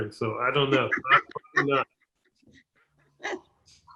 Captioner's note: laughing